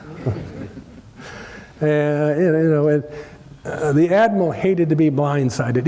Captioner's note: laugh